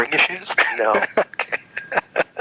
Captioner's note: laughs